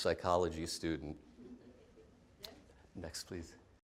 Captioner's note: laughter